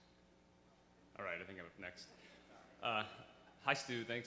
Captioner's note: voiceover